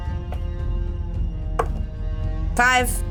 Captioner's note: die thuds